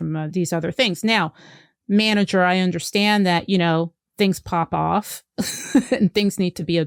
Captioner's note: laughs